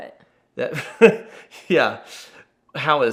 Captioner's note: laughs